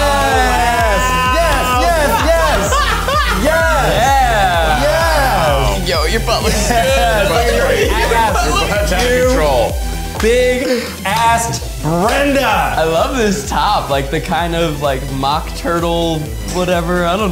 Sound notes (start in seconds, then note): 0.5 laughing